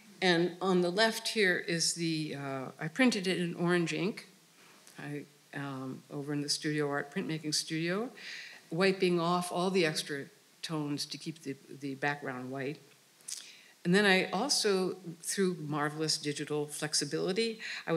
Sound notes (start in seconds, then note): none